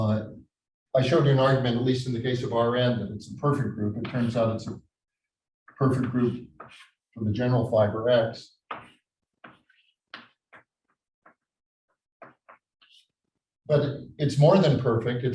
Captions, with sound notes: I showed you an argument, at least in the case of RN, that it's a perfect group. It turns out it's a perfect group from the general fiber X. (chalkboard tapping loudly) But it's more than perfect.